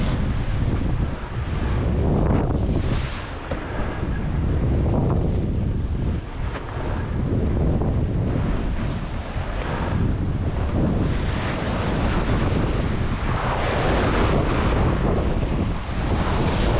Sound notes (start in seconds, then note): 0.1 waves crashing; 2.2 wind blowing; 13.9 waves crashing